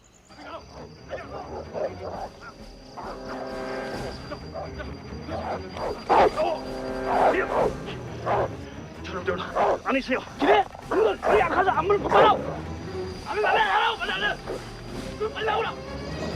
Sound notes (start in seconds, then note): 0.1 dogs Barking; 0.3 soldiers Shouting In Korean; 4.4 barking Continues; 4.4 shouting Continues; 8.4 Korean; 8.4 shouting in Korean; 12.5 shouting Continues